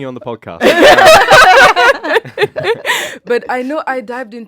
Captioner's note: all laugh